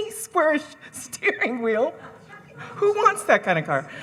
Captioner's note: laughs